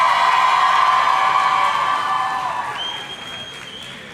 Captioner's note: audience cheering